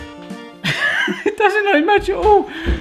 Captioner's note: laughs